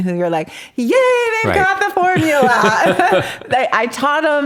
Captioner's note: laughs